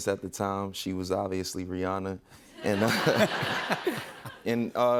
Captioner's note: audience laughing